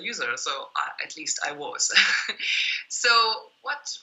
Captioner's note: laughs